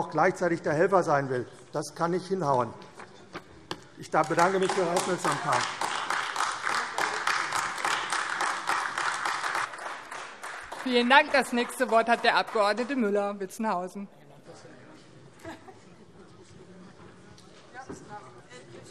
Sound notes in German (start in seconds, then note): 6.1 Beifall AfD